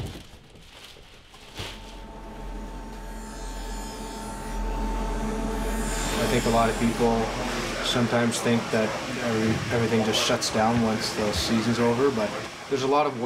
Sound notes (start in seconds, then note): 3.2 metal grinding